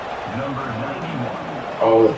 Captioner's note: crowd Noises